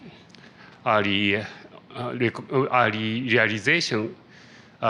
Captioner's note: stuttering